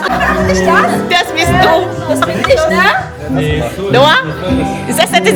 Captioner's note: laugh